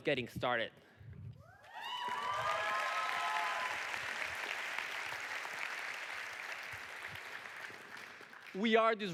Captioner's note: audience cheering